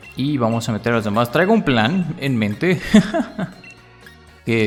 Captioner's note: laughs in evil plan